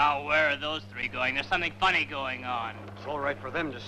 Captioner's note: none